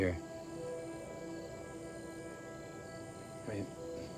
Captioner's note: crickets chirping; tense music